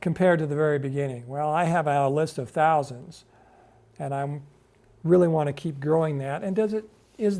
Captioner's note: none